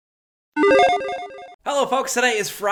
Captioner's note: 8-bit tone dings